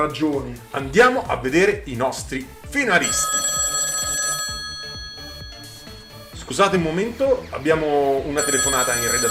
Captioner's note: phone rings